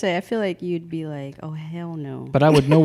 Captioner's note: laughs